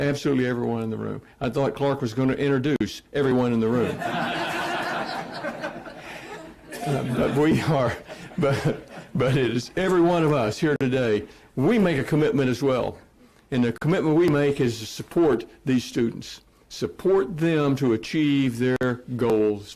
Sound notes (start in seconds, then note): 7.8 laughter